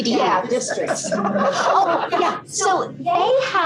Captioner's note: laughter